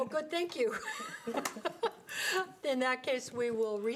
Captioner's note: board laughs